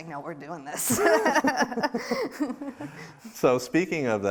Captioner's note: both laughing